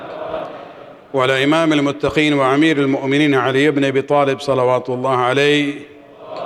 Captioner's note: arabic